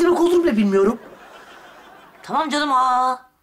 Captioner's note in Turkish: Gülme efekti